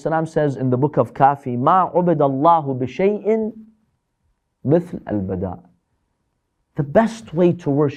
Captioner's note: Arabic